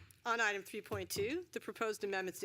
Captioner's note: gavel